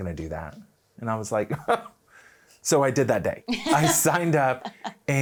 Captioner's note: chortling